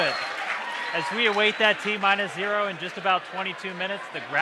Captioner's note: cheers and applause